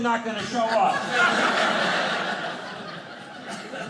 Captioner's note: audience laughing